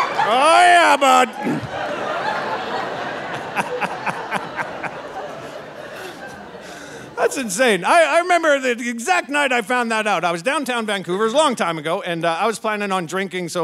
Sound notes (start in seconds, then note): 1.6 audience laughing; 3.0 laughing